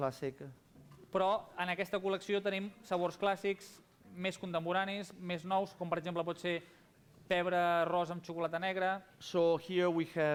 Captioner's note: non-english speech